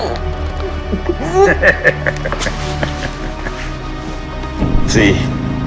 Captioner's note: ominous synth music; Gaunt Man laughs